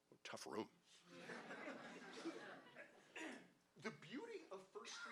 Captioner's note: audience laughing